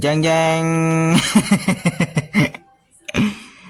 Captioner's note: laughs